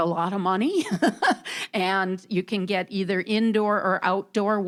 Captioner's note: laughing